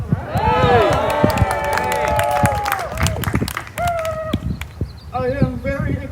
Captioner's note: applause